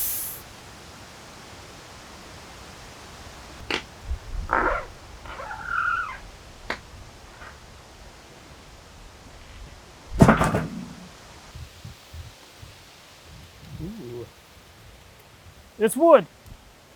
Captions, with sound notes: (slab thuds) Ooh. It's wood.